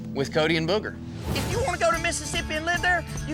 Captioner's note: says angrily